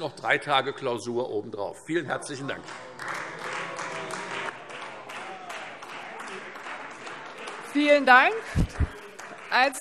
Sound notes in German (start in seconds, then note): 2.4 Beifall Freie Demokraten - Zurufe: Oh!